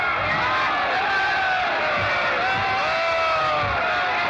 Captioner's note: shouting continues